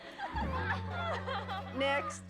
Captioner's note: giggling